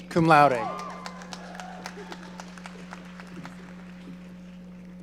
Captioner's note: audience applauding